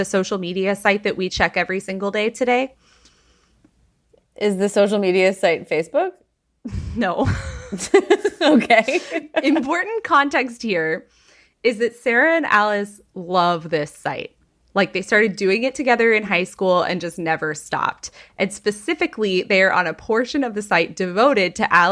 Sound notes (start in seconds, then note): 7.2 laughing